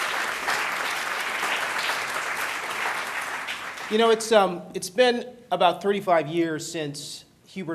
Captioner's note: applause